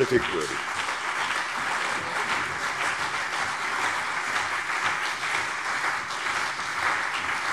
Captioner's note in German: Beifall CDU und BÜNDNIS 90/DIE GRÜNEN